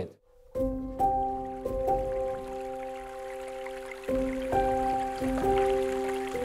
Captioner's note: staccato piano music; rushing water